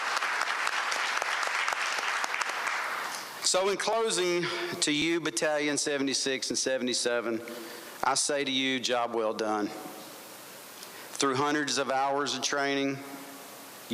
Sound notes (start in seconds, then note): 3.2 applause